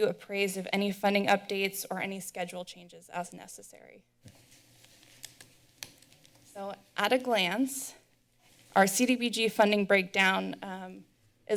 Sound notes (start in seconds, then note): 4.2 rustling sound